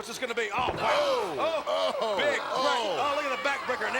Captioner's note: commentators exclaim